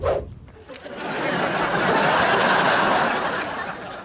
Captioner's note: audience laughs